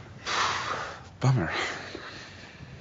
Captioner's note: sighs